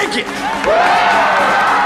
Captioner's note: shouting